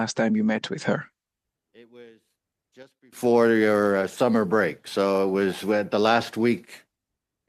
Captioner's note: speaking French